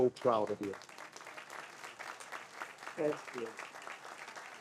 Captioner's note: audience applauds